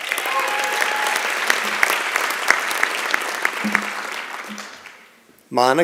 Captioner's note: applause and Cheering